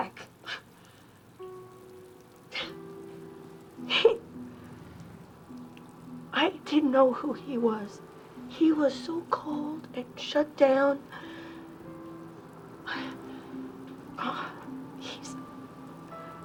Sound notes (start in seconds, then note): 0.5 exhales; 11.1 exhales; 13.6 voice cracking